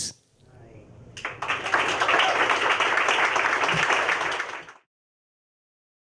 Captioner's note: applause